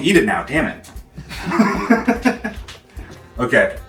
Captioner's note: laughter